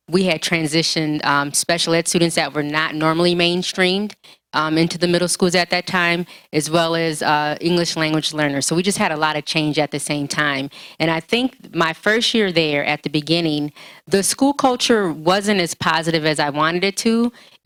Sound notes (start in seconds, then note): none